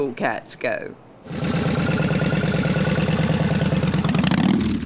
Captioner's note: bike chugging